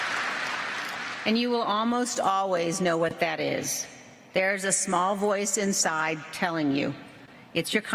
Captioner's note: applause